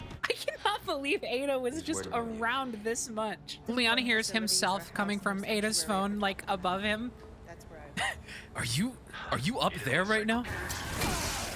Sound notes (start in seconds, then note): 8.0 laugh